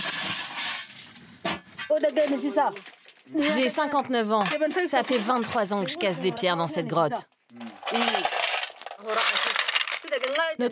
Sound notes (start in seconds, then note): 2.1 herero audio spoken